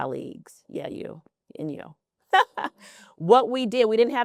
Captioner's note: laughs